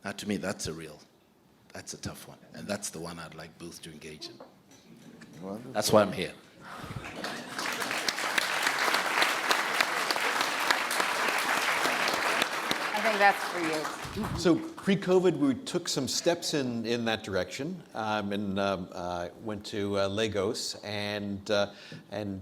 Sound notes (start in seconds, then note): 6.8 everyone applauds